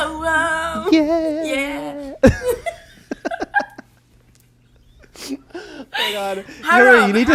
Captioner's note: both laugh